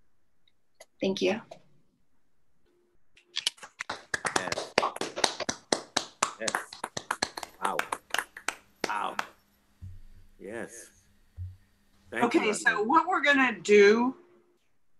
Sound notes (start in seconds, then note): 3.5 applause